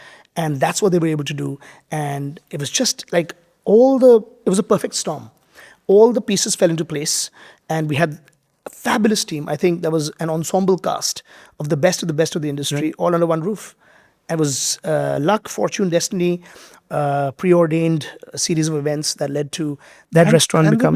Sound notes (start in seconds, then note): none